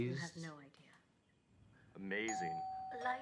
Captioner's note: doorbell ringing